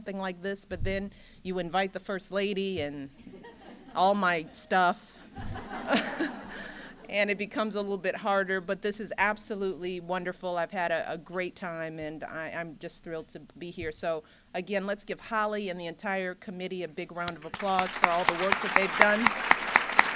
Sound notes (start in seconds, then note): 5.2 laughter; 19.9 applause